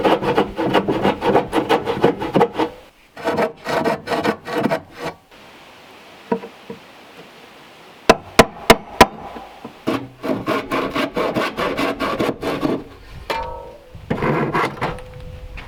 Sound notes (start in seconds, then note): 8.1 hammering; 10.9 saw scraping